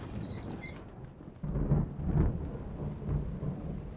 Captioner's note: cart squeaking; thunder claps